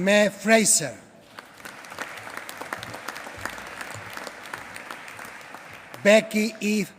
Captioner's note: applause